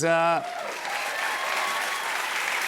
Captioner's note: cheers and applause